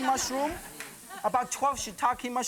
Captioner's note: laughter